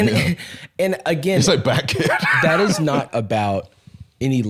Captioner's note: laughs